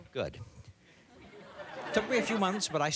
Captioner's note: laughter